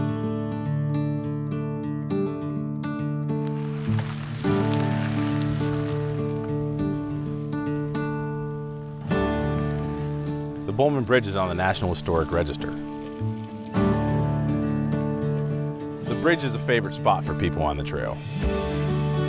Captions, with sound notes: (calming instrumental music) (spinning bike wheels) - The Bollman Bridge is on the National Historic Register. The bridge is a favorite spot for people on the trail.